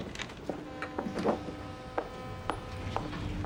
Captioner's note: ship's horn blaring; elevator door opening